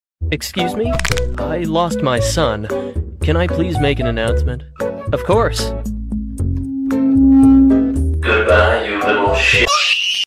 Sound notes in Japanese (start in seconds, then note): 0.9 ｸﾞｷｨ